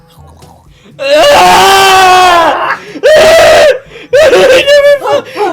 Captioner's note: Taran screaming